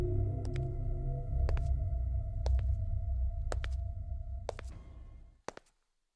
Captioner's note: footsteps